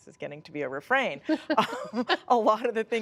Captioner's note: laughter